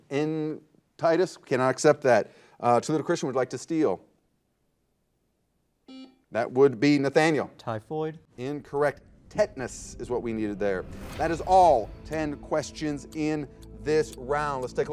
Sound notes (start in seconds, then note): 5.9 buzzer